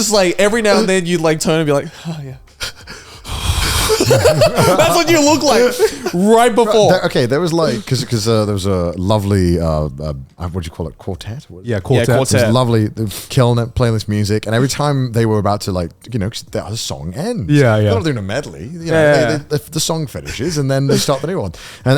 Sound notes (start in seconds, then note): 2.6 exhales; 3.7 all laugh